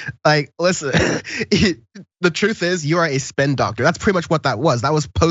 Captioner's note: laugh